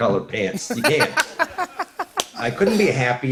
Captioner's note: laughs